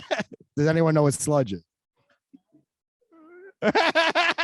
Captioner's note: laughs